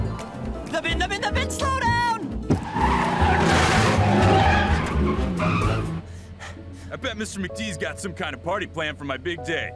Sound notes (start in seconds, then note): 2.4 tires squealing; 6.0 heavy breathing